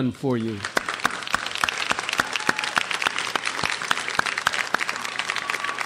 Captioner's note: graduates applaud and cheer